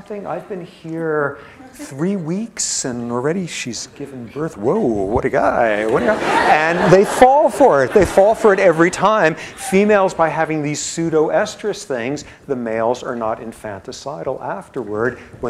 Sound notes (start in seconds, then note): 5.9 laughter